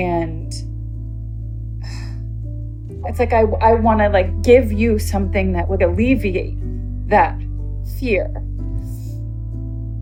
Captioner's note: deep breath